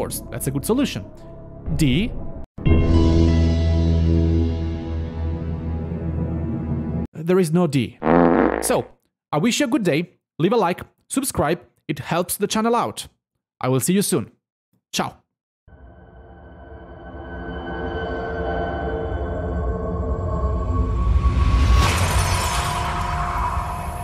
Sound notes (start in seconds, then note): 4.9 suspense music; 8.0 fart